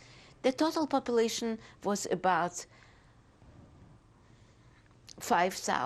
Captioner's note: pauses for 3 seconds